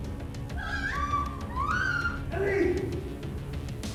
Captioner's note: Ellie screaming